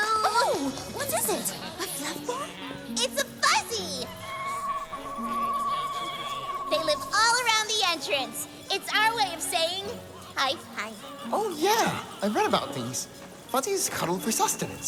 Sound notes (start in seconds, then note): 3.7 the fuzzy makes an adorable trill sound as it is presented; 4.1 the fuzzy makes an adorable trilling noise as it is presented